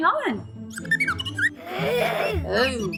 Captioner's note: chirps